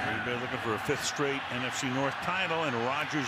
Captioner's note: pa announcement